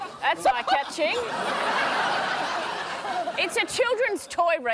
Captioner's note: laughs loudly